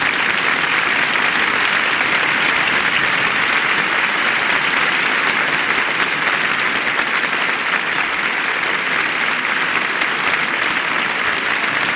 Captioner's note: cheers and applause